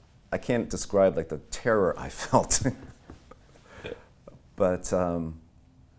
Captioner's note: laughing